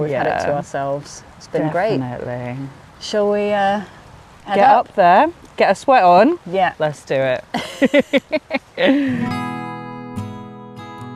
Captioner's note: laughter